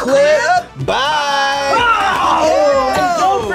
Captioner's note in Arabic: يصرخ